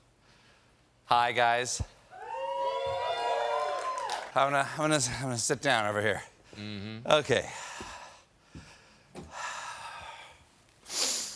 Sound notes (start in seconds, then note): 2.1 cheering